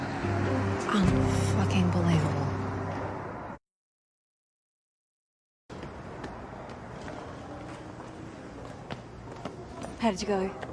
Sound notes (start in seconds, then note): none